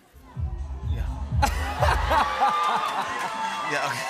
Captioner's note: laughter